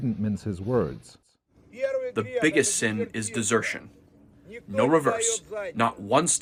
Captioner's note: through translator